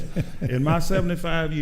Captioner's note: laughing